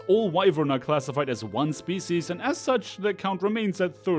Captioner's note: none